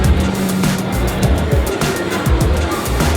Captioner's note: background city noises